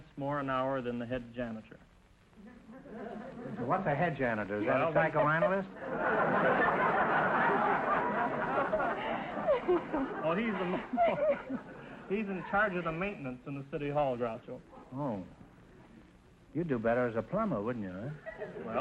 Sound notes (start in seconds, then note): 4.6 audience laughter; 10.1 laughing